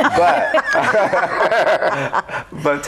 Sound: group laughs

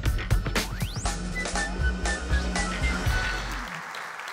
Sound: applause

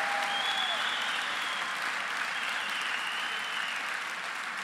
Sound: applause

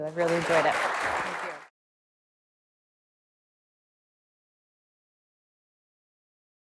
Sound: all clapping

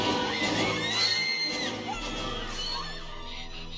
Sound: goonies screaming

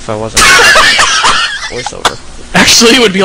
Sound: laughs again

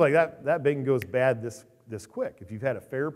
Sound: snaps fingers

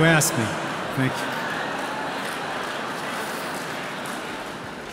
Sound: audience laughing

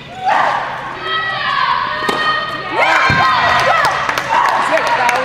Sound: audience cheers

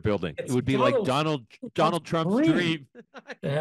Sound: laugh

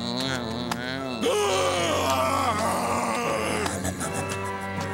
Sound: groaning

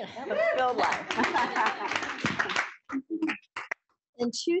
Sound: applause

